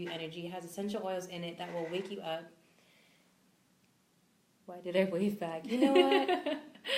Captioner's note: both laugh